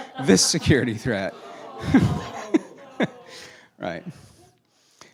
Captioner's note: laughing and groaning